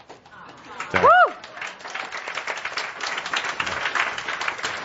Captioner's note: audience applause